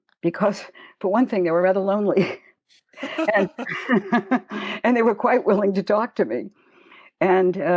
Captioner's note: chuckle